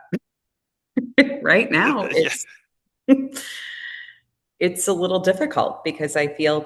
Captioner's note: laughing